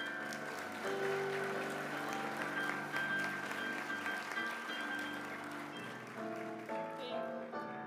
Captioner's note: applause